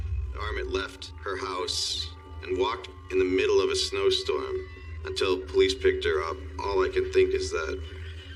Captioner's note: sirens wailing